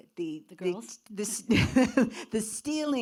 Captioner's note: laughs